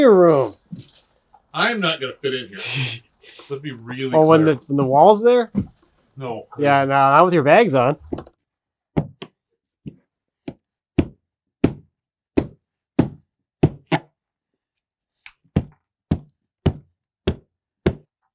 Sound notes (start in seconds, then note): 3.4 speaker laughing; 9.1 hammer knocking